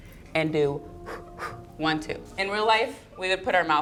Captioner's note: blows air